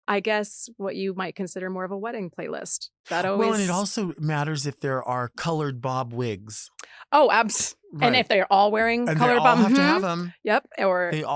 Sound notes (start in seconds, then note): 9.0 laughs